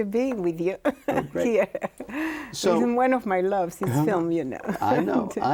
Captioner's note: laughs